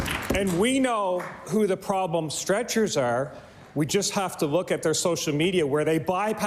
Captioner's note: applause